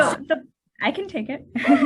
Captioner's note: laughter